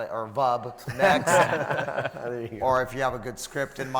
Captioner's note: panel laughs